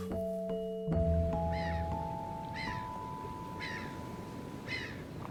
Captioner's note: seagulls squawking